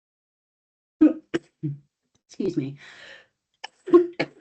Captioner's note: coughs